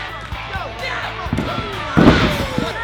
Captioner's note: people cheering; grunt; thud